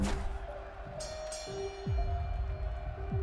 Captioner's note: bell ringing